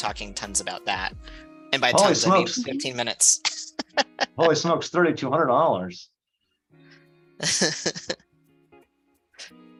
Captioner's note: laughter